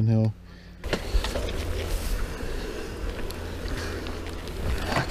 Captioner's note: bicycle moving